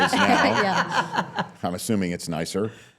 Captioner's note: laughs